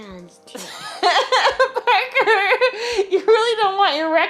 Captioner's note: laughs